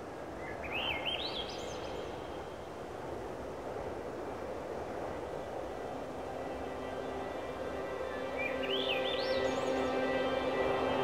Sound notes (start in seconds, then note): 0.4 birds singing; 4.2 wind whispering; 6.2 mellow instrumental music